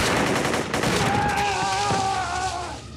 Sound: screaming

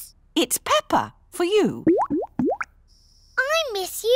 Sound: bubbling

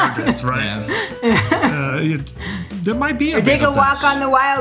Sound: laughs

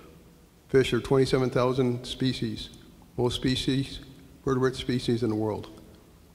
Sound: slurs words

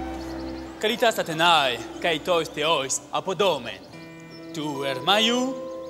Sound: Athenian speaking in foreign language

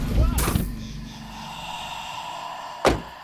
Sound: faint breath

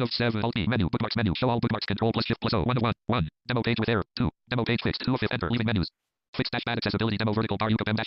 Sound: screen reader reads fast

